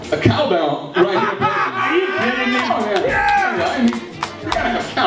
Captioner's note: laughter